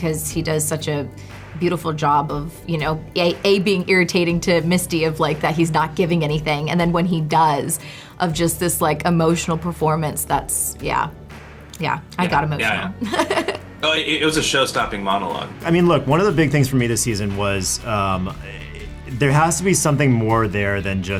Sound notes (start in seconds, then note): 13.0 laughs